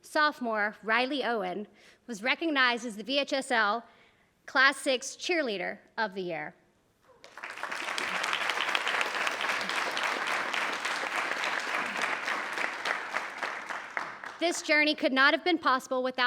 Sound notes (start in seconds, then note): 7.2 attendees applauding